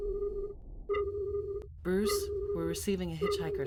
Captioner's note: computer voice